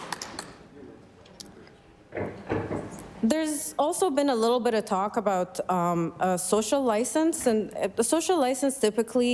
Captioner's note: applause